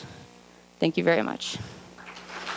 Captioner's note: clapping